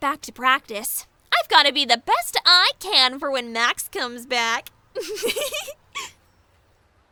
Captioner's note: giggle